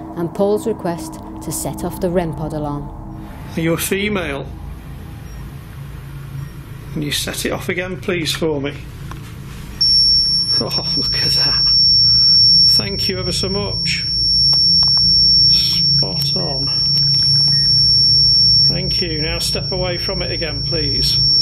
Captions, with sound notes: and Paul's request to set off the rempart alarm. - Are you a female? Can you set it off again please for me? (beeping) Oh look at that. Thank you ever so much. Spot on. Thank you, now step away from it again please.